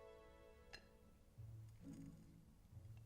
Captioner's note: none